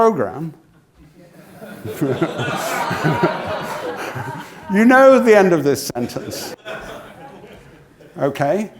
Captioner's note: laugh